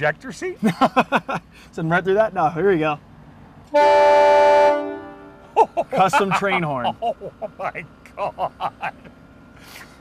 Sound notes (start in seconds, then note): 3.7 horn blaring